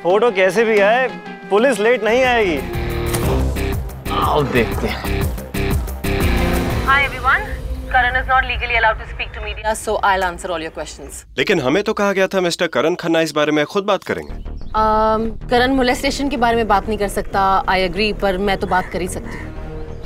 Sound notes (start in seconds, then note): 3.0 Door closes